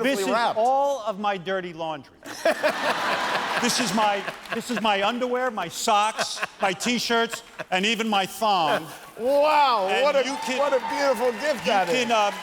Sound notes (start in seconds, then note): 6.0 laughter